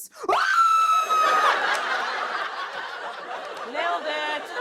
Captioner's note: screaming; laughter